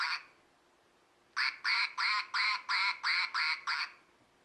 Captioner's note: quack quack quack quack quack quack quack; quack quack quack quack quack quack quack